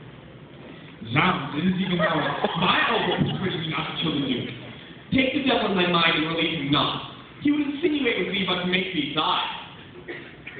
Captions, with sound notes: 'Zounds, it is even now at my elbow, persuading me not to kill the duke. [laughter] 'Zounds, it is even now at my elbow, persuading me not to kill the duke. 'Zounds, it is even now at my elbow, persuading me not to kill the duke. Take the devil in thy mind, and relieve him not: he would insinuate with thee but to make thee sigh.